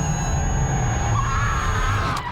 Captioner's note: screams